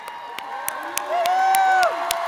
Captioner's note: cheers and applause